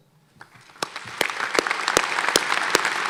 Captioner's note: applause